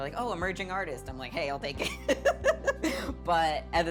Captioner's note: laughing